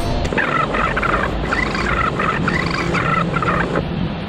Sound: tape warbles

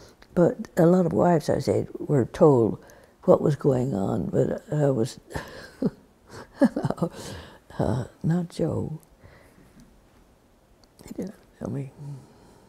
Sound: laughs

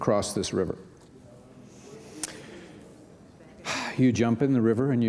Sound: audience speaking

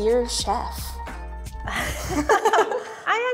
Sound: both laughing

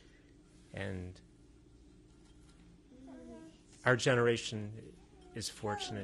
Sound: pauses for 3 seconds

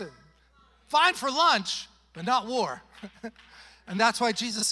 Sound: chuckles

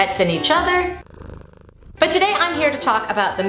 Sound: cats purring

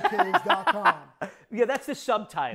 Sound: laughing

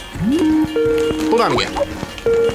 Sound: Skype Sound

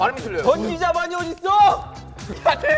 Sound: shouting

